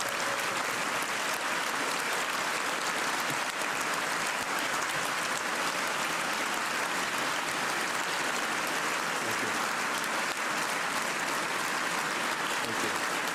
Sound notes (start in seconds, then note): 0.0 cheers and applause